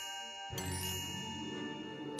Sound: magical chime

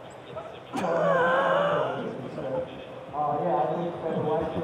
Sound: pugs laughing

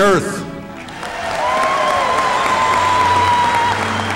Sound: applause

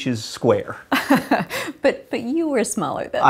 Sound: laughter

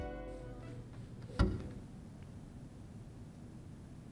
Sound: sound of endpin gently piercing wood floor

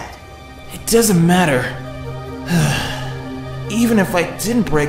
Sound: sigh

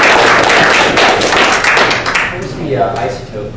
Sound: clapping

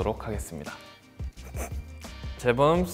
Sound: chuckles

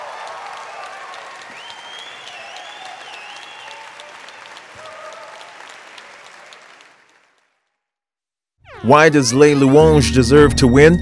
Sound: cheers and applause

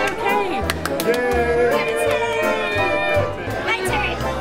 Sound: clapping and cheering

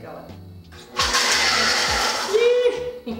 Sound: mixture blending

